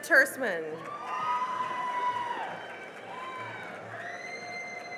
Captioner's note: cheering and applause